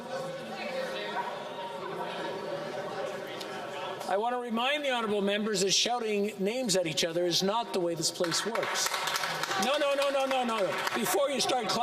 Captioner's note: yelling